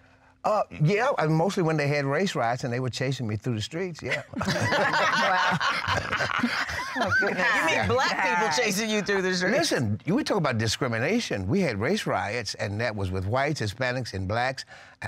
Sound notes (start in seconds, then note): 4.0 laughter